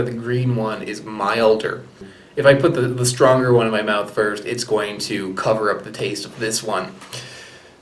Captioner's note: sighs